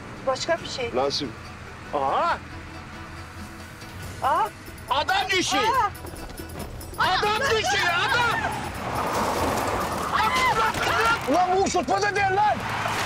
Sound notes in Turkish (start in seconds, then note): 8.7 Lastikler Gıcırdıyor; 10.1 Bağırıyorlar; 12.8 Araba Çarpıyor